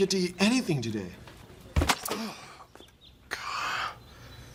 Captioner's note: thud; napoleon grunts